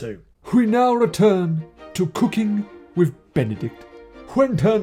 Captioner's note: in a posh voice